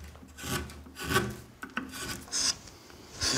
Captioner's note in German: Kratzendes Geräusch